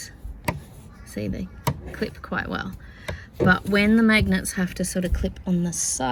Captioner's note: magnet clicks; click